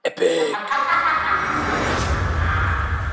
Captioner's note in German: lachen